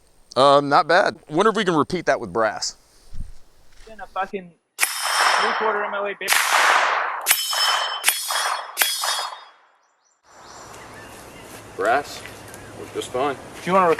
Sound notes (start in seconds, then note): 4.8 gunshots